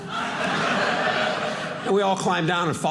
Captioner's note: audience laughing